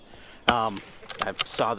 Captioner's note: rifle bolt chambers; rifle fires